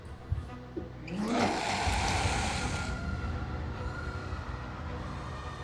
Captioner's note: creature growls; slow tense music